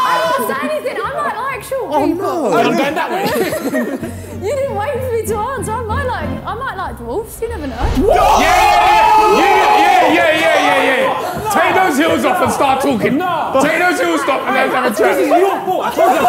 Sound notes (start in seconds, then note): 7.8 Sidemen yelling